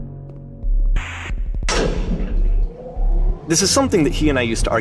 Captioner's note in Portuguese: estrondo do elevador